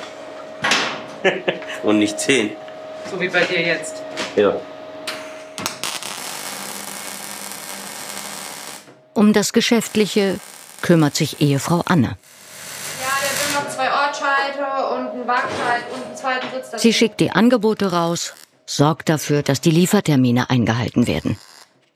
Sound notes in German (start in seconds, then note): 1.2 Lachen; 5.7 Knistern; 12.9 Sie sagt etwas, Arbeitsgeräusche